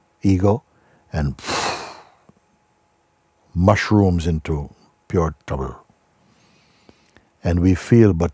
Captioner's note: δυνατή εκπνοή